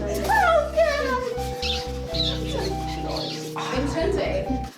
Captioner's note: more smooching